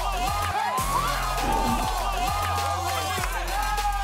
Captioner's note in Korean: 열띤 호응